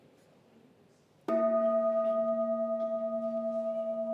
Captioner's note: gong sounds